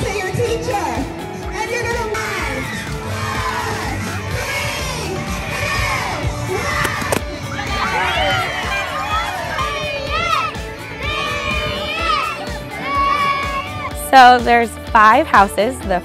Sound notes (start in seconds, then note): 3.2 children counting in unison; 6.8 balloons popping; 7.4 children yelling with delight